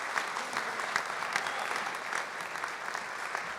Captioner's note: applause